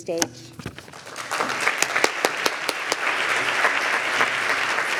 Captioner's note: applause